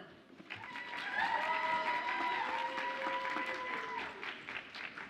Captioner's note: audience applauds and cheers